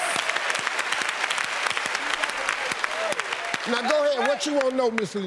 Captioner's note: applause